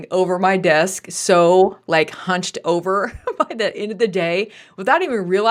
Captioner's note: chuckles